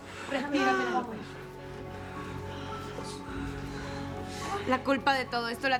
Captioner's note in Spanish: Jadeos de Penélope